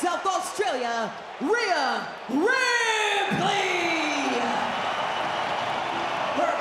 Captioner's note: crowd cheers